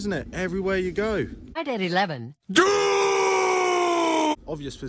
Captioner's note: screams